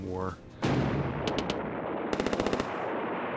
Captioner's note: explosions and gunfire